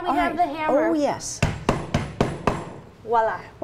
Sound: hammer banging

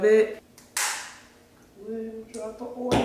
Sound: bottle opens

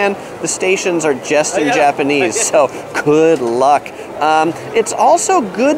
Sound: chuckles

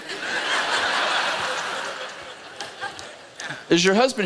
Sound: laughter

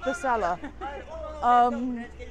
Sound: laughs

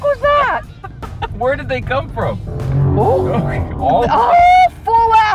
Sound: car zooms

